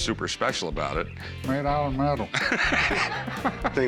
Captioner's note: laughs